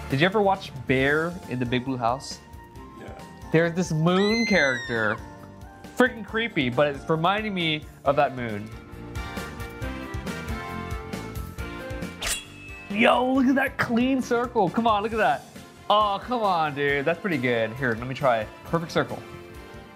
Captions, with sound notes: Did you ever watch Bear in the Big Blue House? - Yeah. - There's this moon character, fricking creepy, but it's reminding me of that moon. (upbeat music) (sword sharpening) yow, look at that clean circle. Come on, look at that. Oh, come on, dude. That's pretty good. Here, let me, try perfect circle.